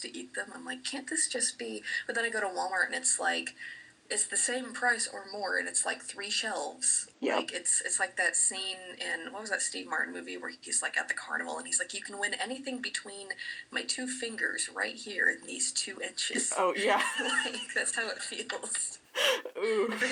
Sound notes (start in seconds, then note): 16.5 laughing